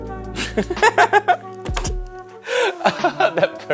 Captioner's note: laughing